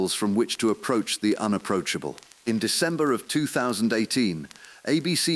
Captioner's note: exhale